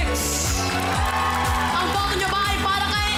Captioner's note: applause, cheering